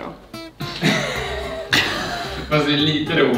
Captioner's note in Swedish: skrattar